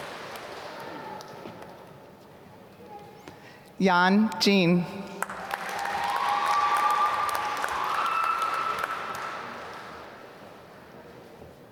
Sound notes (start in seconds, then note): 5.2 applause